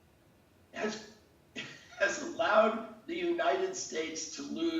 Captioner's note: laughs